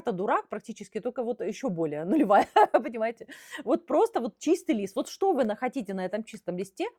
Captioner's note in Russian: смех